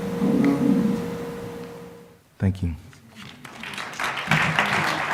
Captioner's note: applause